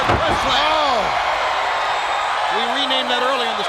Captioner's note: crowd cheering